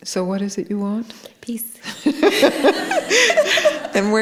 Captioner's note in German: Gelächter